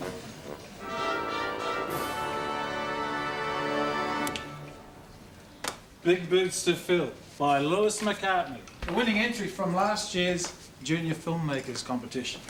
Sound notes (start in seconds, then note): 4.2 click